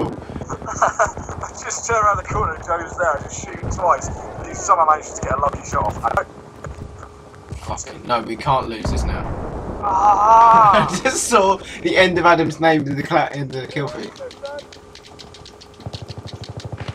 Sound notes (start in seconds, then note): 0.0 laughs; 9.5 groans angrily; 10.0 laughs